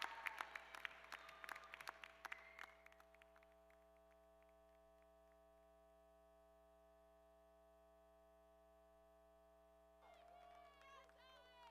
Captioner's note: cheers and applause